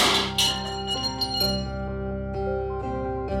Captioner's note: clatter; crash